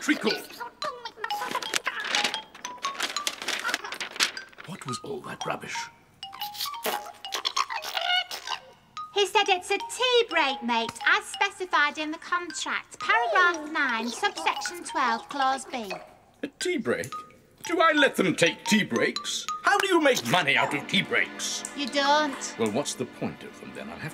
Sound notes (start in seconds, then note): 1.2 patient boggart noises; 6.4 Boggart gibbering!